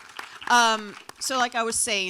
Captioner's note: audience applauds